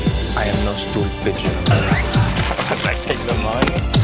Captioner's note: grunting